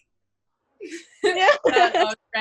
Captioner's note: laughs